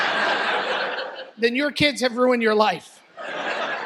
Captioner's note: audience laughs; laughter